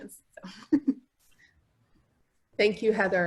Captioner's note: laughs